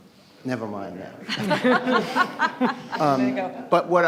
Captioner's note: audience laughs